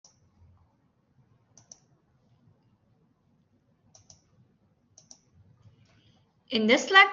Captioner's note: silence